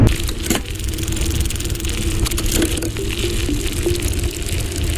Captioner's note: bike gears ratcheting; mid tempo electronic music